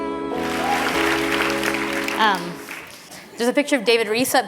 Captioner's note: applause